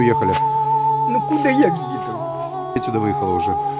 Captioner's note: speaks Ukrainian